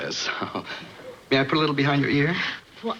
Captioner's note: chuckles